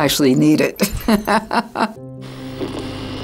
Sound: chuckles; lighthearted music

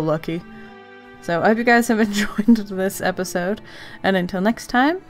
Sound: giggles

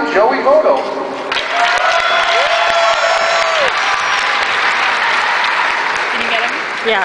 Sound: cheering

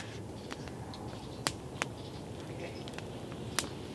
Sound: fire crackling

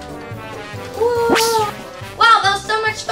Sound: synth whoosh

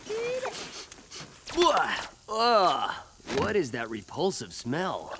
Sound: sniffing

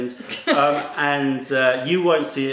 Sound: laughter

